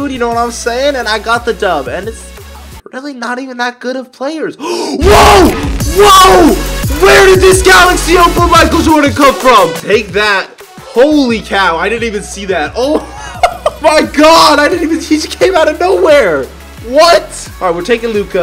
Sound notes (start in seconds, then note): 4.6 inhale; 6.0 mic peaks